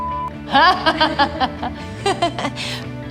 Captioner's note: laughing